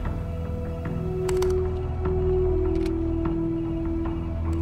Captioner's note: buttons clicking